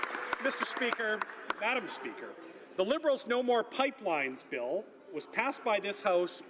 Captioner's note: some Applause